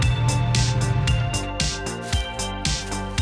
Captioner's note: engine stops